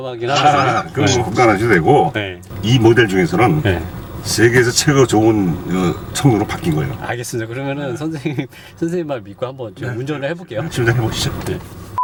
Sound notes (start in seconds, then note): 3.7 car